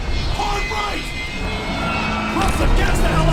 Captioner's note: voiceover